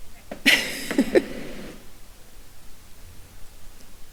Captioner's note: laughs